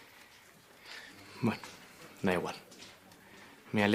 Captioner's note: whispering